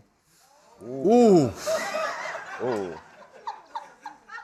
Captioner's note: laughter